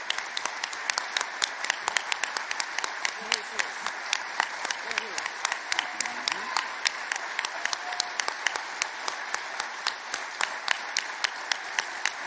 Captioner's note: applause